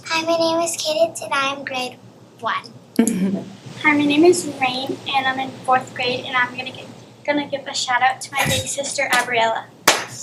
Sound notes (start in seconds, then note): 3.0 chuckles